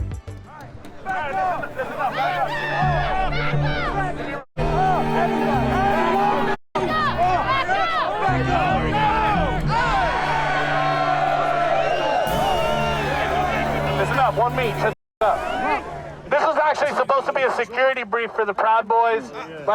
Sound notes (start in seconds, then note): 9.6 group cheering